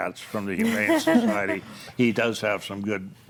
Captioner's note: group laughs